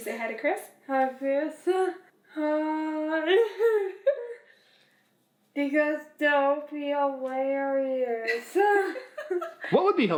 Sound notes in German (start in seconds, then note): 3.9 lacht; 8.2 Mama lacht; 8.3 lacht